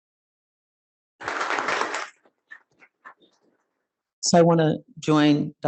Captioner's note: crowd clapping